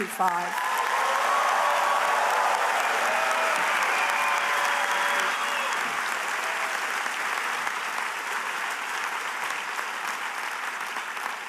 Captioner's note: applause